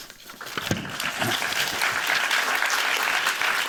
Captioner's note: applause